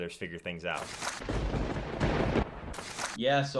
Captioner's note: lightning striking